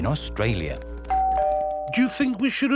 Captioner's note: doorbell rings